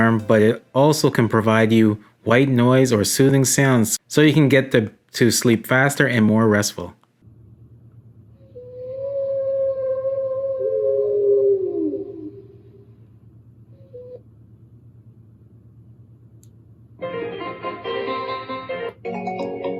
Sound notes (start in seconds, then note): 8.4 howling; 17.0 upbeat music